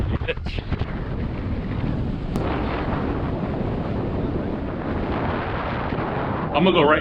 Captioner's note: wind blowing